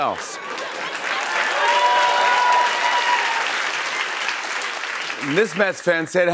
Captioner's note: cheers and applause